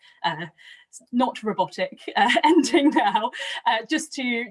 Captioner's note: laughing